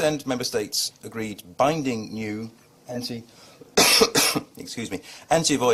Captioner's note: coughs